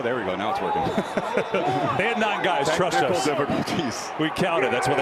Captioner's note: laughs